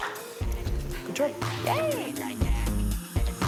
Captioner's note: applause